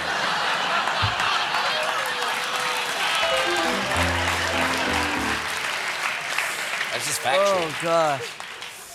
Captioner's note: cheers and applause